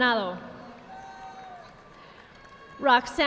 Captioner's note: audience applauding